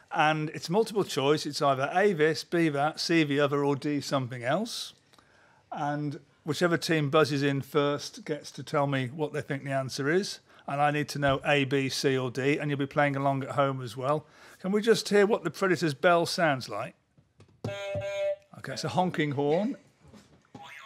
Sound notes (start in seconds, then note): 17.6 honk; 20.6 boing